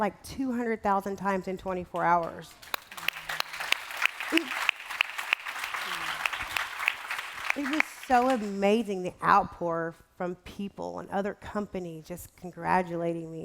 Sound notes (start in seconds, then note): 2.5 applause